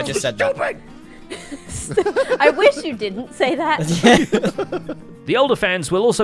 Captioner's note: laughs